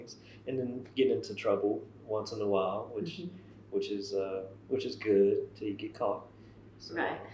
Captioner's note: laughter